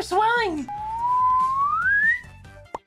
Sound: whistles in increases pitch

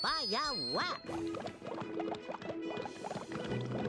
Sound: water bubbling

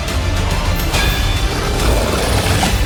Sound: roars

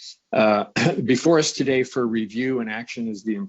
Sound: clears throat

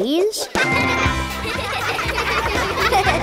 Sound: laughing

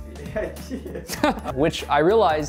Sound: laughs

